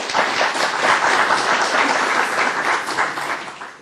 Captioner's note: applause